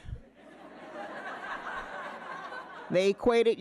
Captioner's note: audience laughing